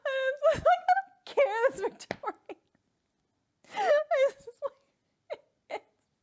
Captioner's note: laughs; laughs